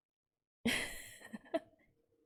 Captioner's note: laughs